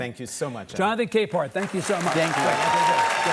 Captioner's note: audience clapping